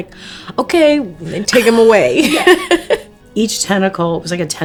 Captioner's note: laughs